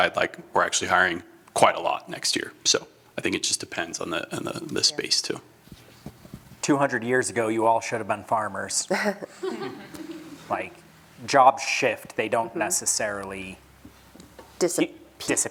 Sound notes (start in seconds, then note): 8.9 laughter